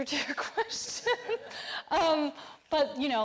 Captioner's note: all laughing